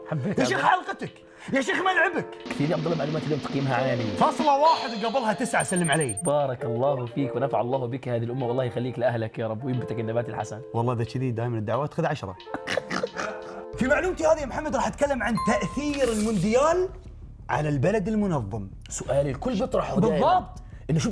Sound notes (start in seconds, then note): 12.5 laughs